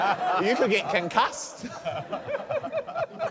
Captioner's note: laughter